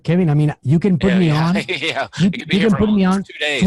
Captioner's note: laughing